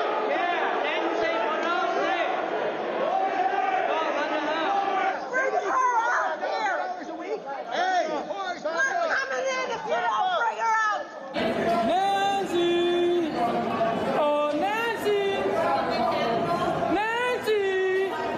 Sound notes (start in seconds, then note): 3.0 chanting nancy